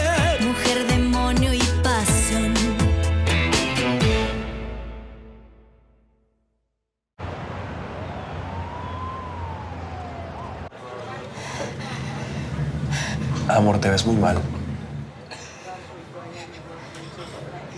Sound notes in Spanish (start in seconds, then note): 11.3 Sollozos